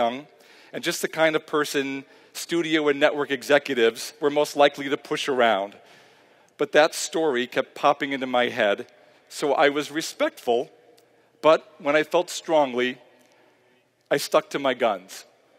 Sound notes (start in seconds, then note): none